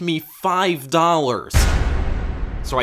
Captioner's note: boom